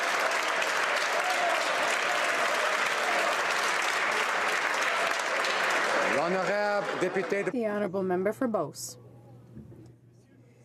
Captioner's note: some Applause